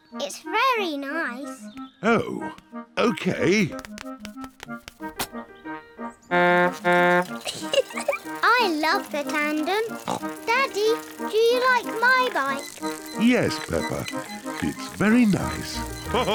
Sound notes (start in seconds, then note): 6.4 toots horn and giggles; 9.8 snorts; 16.1 all laugh